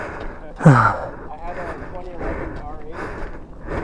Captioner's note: more heavy breathing